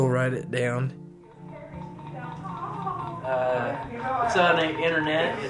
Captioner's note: chattering